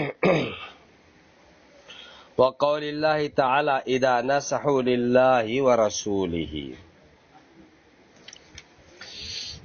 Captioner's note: clears the throat